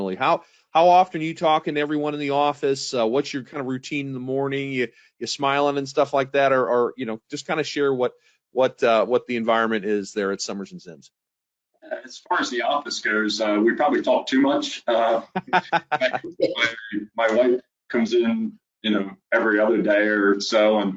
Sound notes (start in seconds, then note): 14.4 laughing